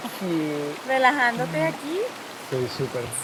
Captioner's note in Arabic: يتحدث بالإسبانية; بالإسبانية